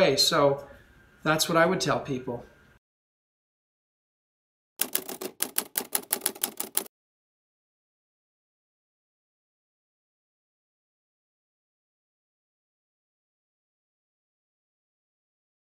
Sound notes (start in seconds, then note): 4.8 keyboard clacking